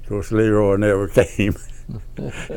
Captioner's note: laughs